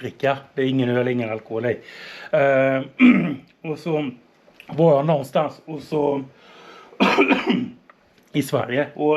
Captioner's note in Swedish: harklar sig